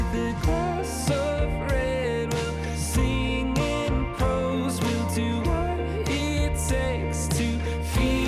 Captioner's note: clock ticking